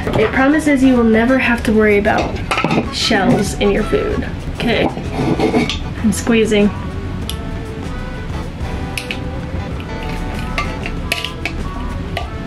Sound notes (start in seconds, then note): 9.8 egg cracking